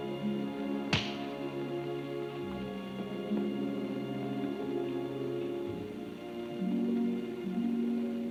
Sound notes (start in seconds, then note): 0.9 hand smacks